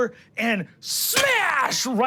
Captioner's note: porcelain breaks